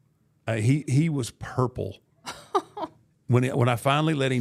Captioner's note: laughing